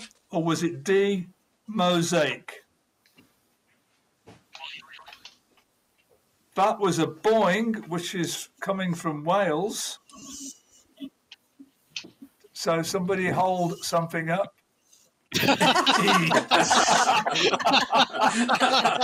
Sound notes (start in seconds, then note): 4.5 boing; 15.3 laughing